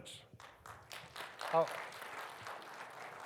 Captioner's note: audience applauds